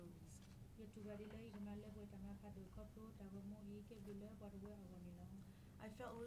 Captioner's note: speaking in foreign language